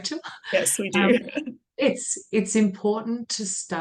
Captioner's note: laughs